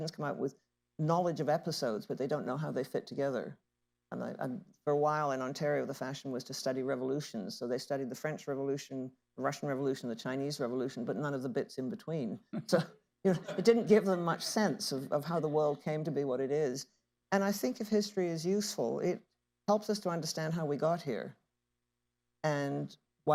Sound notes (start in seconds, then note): 13.3 laughter